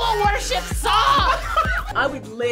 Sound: laughs

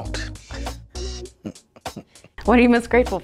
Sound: laughs

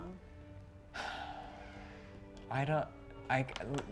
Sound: sighs

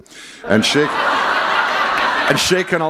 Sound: laughter

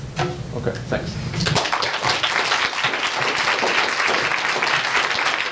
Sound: audience applauds

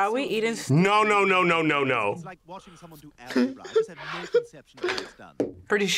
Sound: giggles

